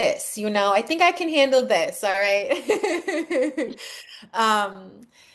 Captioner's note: laughs